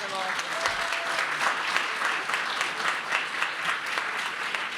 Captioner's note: applause